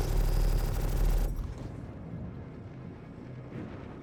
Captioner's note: gun fires